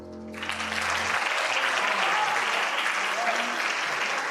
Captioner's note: applause